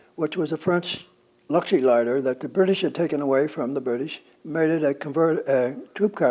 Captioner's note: French